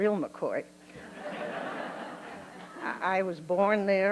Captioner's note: laughter